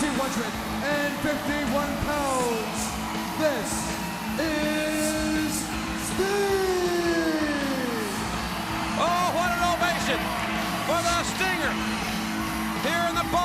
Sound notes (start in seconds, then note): 9.1 cheers and applause